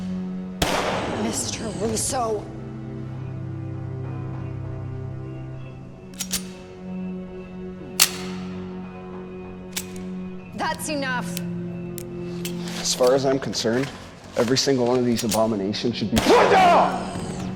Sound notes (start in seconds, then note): 2.5 gun clicking; 2.5 suspenseful music continues